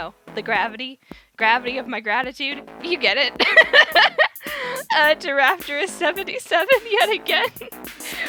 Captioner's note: delirious beleagured laughter